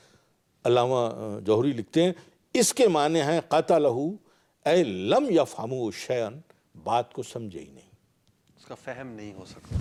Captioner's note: Arabic